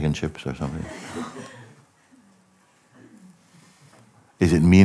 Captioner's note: Lachen